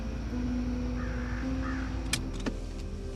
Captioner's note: raven squawks; car key clicks